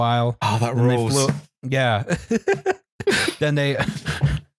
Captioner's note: laughs